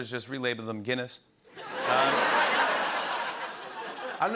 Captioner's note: laughter